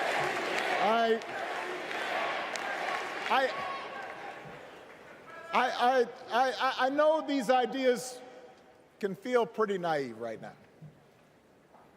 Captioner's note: crowd chanting